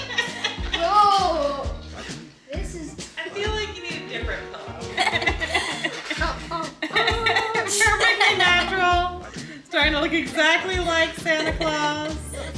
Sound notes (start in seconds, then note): 0.0 parents laugh; 4.9 laughing